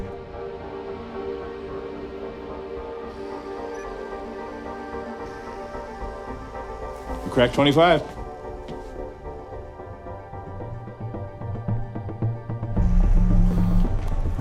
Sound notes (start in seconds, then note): 0.0 upbeat music continues; 0.2 suspenseful music; 3.9 electronic beeping; 8.6 suspenseful music continues